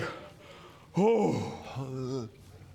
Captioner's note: hrrgh